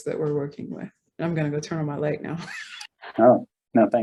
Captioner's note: chuckles